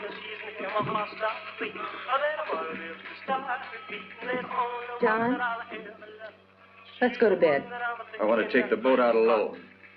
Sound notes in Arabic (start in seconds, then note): 0.8 خطوات على الرصيف